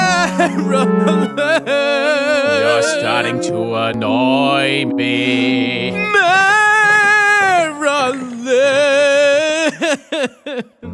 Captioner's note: crying